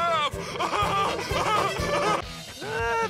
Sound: laughing

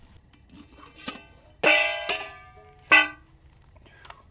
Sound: clanging

